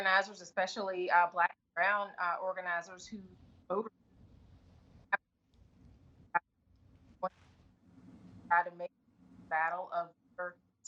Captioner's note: audio break